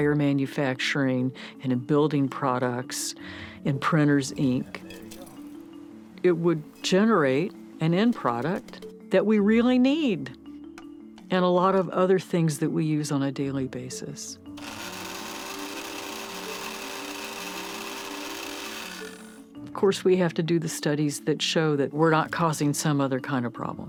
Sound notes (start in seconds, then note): 14.6 whirring